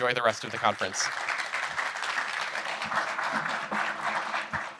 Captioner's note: crowd clapping